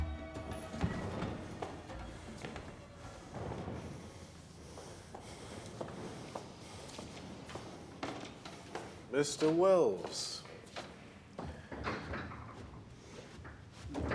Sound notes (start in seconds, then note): 2.2 breathing heavily